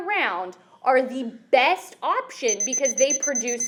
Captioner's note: beeping sounds